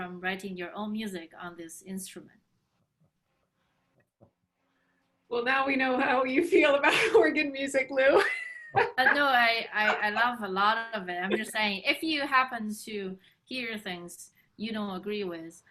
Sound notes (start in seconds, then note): 9.8 laughs